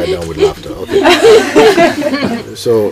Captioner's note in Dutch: gelach